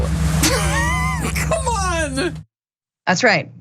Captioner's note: laugh